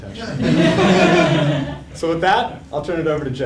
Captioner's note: laugh